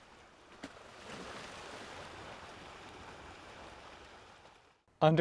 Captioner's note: waves crashing